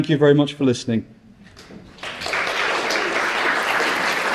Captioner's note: applause